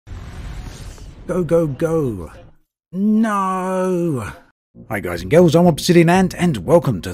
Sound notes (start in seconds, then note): 3.0 yelling